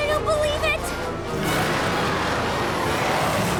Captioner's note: roars